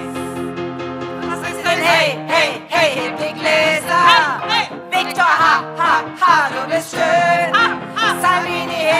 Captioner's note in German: ha ha